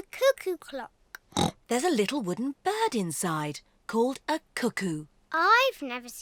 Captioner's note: oinks